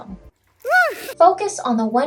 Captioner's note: screams